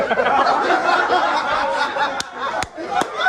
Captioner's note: men laughing